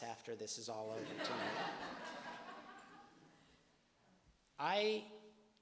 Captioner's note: audience laughing